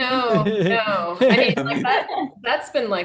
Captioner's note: group laghing